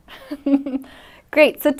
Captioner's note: laughs